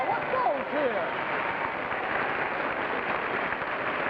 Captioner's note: crowd clapping